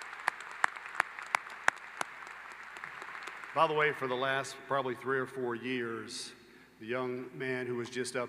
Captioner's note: applause